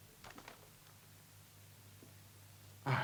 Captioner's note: paper rustles